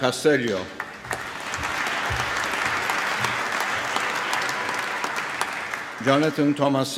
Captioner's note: applause